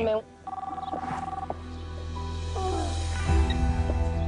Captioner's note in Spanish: Suena el teléfono